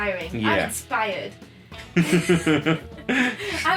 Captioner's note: laughing